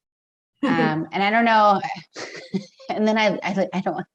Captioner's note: giggles